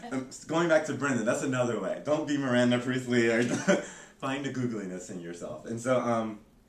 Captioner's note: laughter; laughter